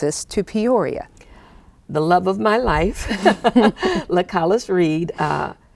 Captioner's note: laughing